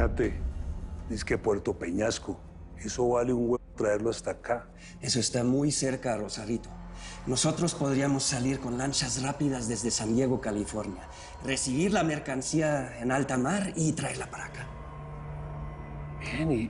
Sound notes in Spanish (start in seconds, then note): none